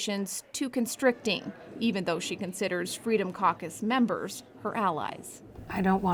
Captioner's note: attendees chattering